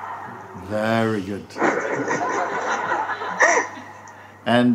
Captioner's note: laughter